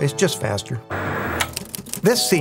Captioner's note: static crackling